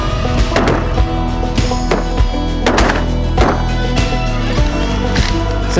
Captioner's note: music and gunshots